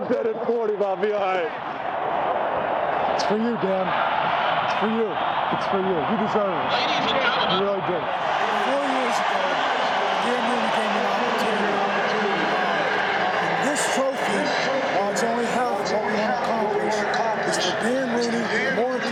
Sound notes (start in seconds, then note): 3.1 cheering